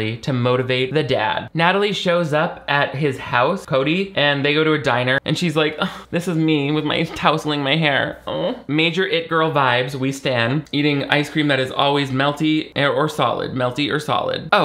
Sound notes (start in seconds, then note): 6.8 huffs